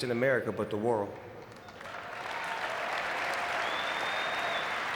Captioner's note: audience clapping